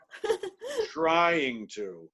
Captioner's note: chuckles